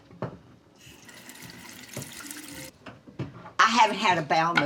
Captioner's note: faucet running